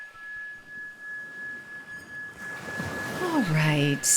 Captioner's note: waves crashing